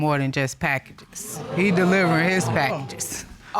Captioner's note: audience exclaiming